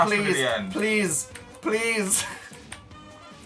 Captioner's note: laughs